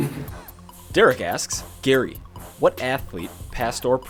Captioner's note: voiceover